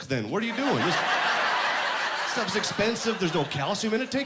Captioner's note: laughing